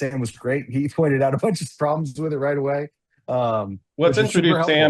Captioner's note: laughs